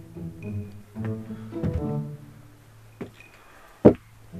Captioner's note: footsteps